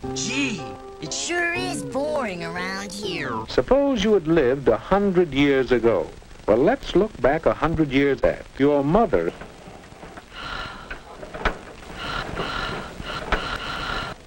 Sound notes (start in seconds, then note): 10.2 quiet sigh; 11.9 not-so-quiet volcano of sighs